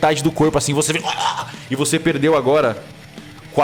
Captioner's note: choking